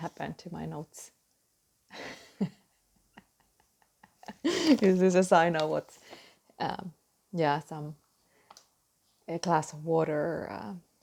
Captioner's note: laughing